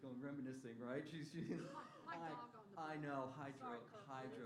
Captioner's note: laughter